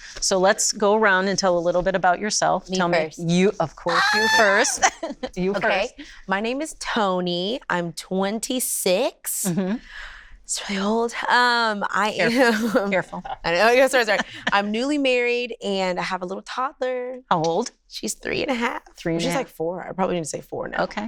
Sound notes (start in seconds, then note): 3.8 shouts; 12.3 laughs